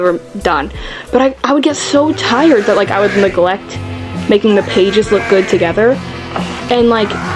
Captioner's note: screaming sounds